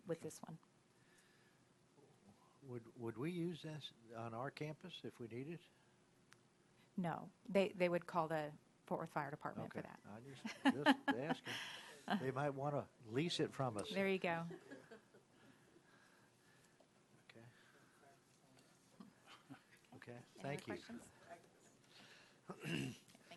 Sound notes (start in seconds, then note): 10.4 chuckles